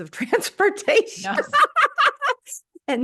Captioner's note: laughs